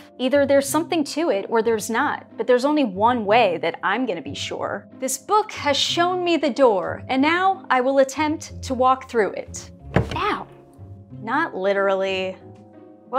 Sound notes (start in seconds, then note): 9.9 thud